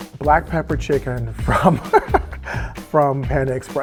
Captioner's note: laughing